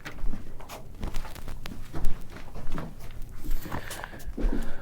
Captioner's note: footsteps clomping